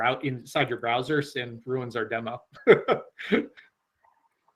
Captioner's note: laughs